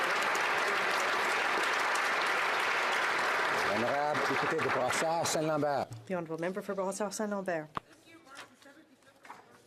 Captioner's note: applause